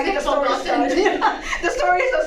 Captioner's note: laugh